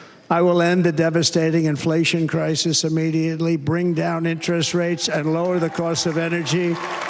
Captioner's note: applause